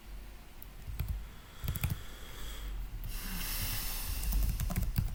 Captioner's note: typing noise